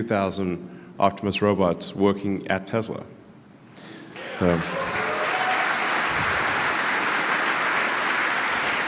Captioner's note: Applause; 鼓掌